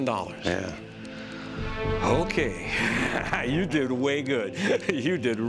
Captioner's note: chuckles